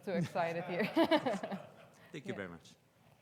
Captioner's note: laughs; audience laughs